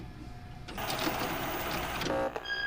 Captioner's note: crackling